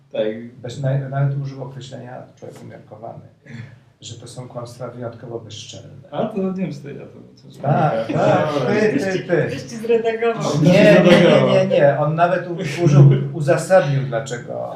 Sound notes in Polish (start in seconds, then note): 7.8 śmiech